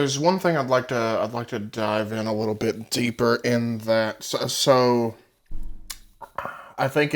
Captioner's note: sips, sighs